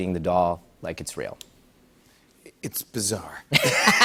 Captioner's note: laughs